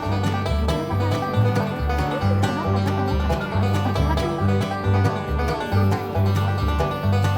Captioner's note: laughs